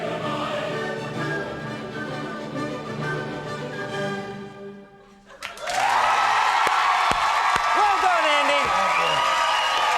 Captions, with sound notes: (audience cheers) Well, done, Andy. Thank you.